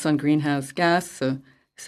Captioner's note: speaking French